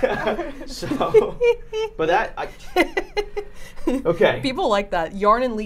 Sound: laughing

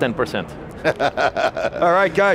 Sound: laughs

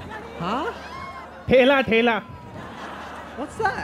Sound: non-english speech; laughter

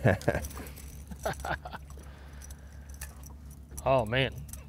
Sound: both chuckling

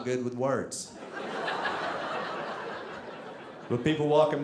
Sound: audience laughing

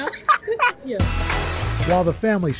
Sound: laughter

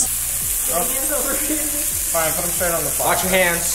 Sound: sausages sizzling

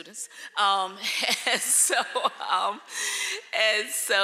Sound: laughing

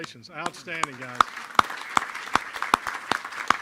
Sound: applause

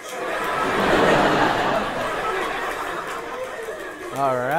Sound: people laughing

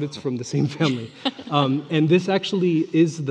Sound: panelist laughing

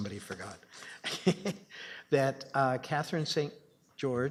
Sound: laughing

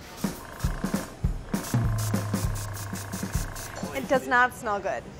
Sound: airbrush spraying

